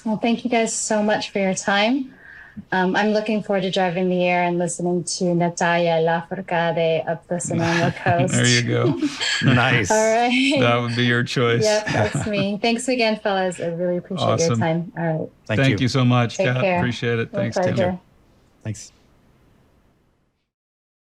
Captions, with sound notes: Well, thank you guys so much for your time. I'm looking forward to driving the air and listening to (foreign language) of the Sonoma coast. There you go, that would be your choice. Yeah, that's me. Thanks again, fellas. I really appreciate your time. Thank you so much. I appreciate it. Take care, my pleasure. Thanks .